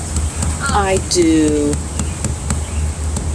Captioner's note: mallet thudding